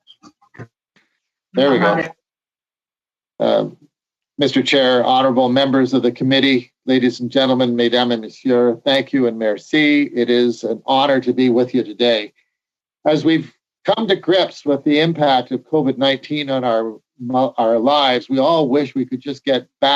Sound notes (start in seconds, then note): 3.9 speaking French